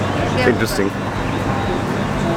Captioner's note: foreign language